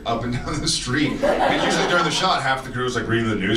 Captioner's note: audience laughs; laughs